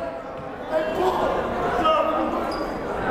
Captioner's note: yelling